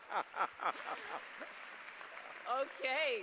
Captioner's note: laughter; applause